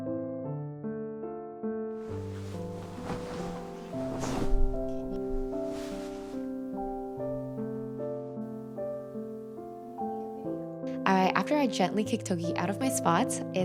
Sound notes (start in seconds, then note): 2.1 sheets whooshing